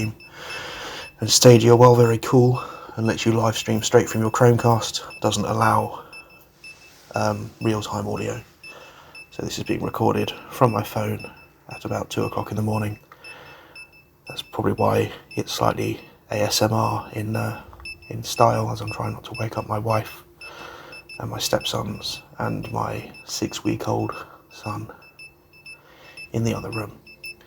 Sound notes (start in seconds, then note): 7.0 voice-over